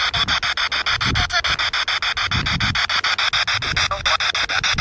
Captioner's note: spirit box sound